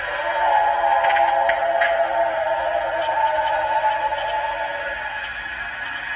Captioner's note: eerie animal howling continues